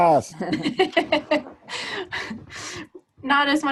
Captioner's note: laughing